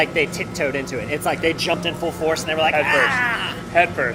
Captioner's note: ahh